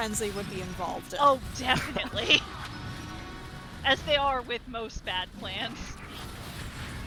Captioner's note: laughs